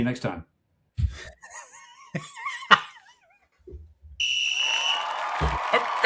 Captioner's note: audience Cheering; laughing